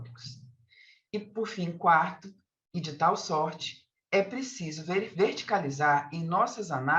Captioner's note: continues speaking in Portuguese